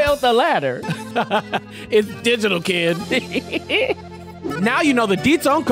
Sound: laughs

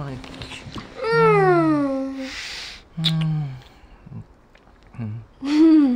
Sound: Peter and Lily moan; both laugh

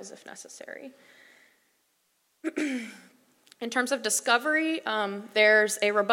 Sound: cough

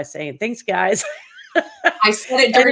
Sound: laughs

